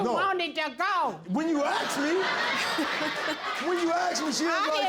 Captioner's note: all laughing